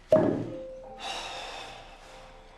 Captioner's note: sigh